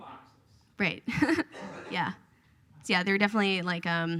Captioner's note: laughs